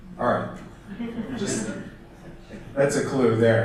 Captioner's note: audience laughter